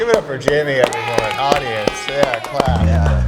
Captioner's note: children cheering